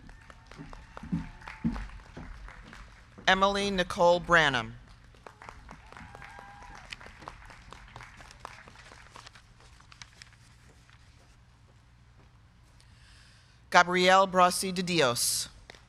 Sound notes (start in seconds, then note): 0.0 crowd cheering; 0.1 crowd clapping; 5.2 crowd cheering; 5.5 crowd clapping